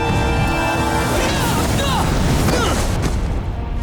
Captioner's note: grunting